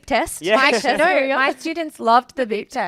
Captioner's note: laughing